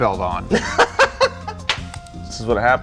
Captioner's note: laughs